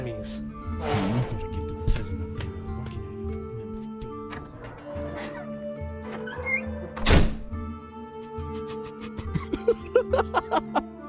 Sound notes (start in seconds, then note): 1.2 huffs and mutters under his breath, walking out; 8.2 laughs